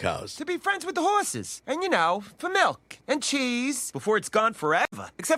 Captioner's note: none